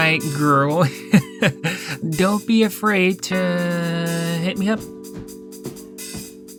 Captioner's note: laughing